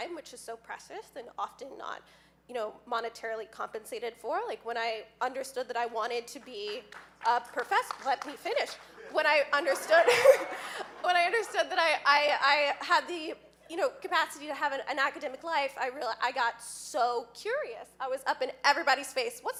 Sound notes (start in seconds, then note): 6.4 audience clapping; 9.0 laughing